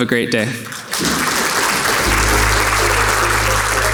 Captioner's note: audience clapping; soft upbeat music